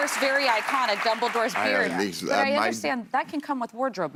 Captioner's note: applause